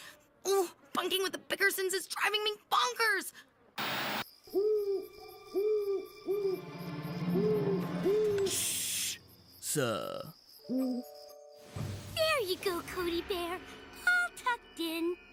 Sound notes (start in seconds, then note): 4.4 owl Hooting